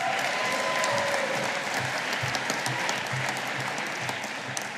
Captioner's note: audience applauding